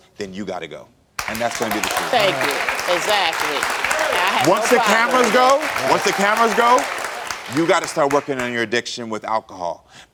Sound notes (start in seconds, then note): 1.6 audience applauds